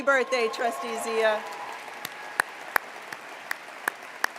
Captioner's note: applause